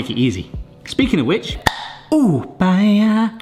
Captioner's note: lid clicks